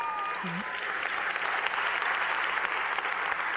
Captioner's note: cheers and applause